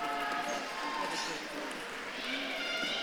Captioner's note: audience claps and cheers